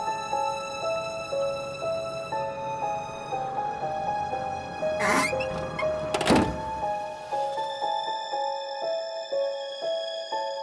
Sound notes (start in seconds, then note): 4.9 door creaking